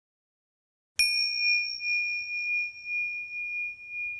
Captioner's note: bell ringing